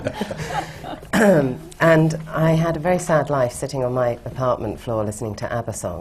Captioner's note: laughter